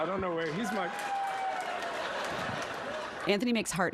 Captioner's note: applause